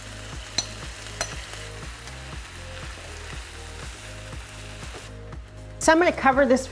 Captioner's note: food sizzling; spoon clinking against bowl